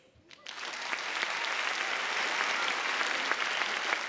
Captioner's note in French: Applaudissements